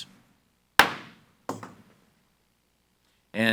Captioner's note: gavel bangs